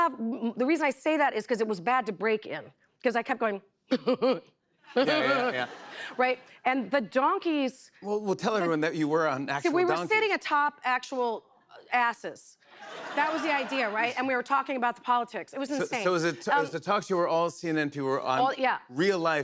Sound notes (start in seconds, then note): 4.9 chuckling; 12.7 laughter